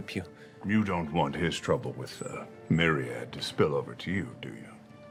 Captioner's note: Sean Connery voice peters out